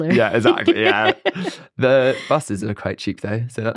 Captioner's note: laughs